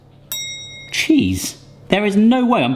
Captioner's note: bell dings